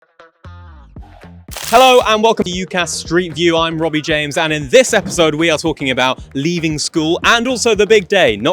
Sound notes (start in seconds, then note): 1.5 screen rustling; 1.5 lively music